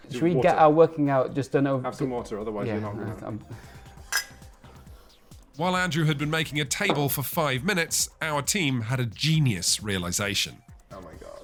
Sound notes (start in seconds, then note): 4.0 glasses clinking